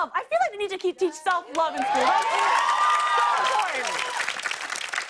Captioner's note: cheers and applause